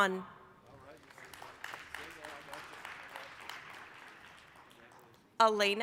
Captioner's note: applause